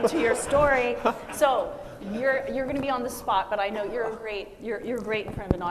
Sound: machine and audience laugh

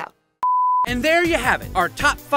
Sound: beep

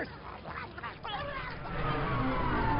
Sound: toppings growling

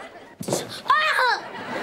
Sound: screams

